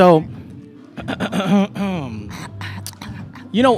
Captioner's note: clears throat